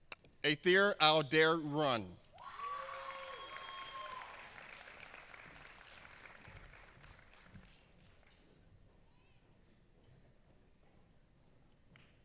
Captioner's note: applause